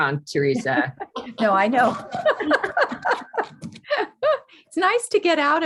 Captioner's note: all laughing